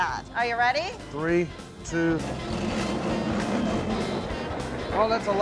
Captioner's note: machine grinding sound